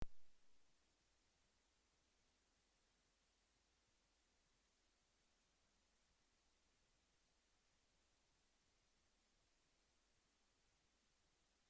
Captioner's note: pause